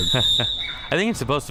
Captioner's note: whistle chirping